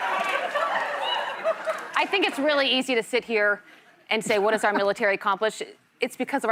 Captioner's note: laughter